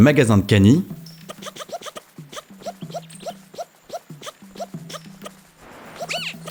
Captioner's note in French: voix de Link en accéléré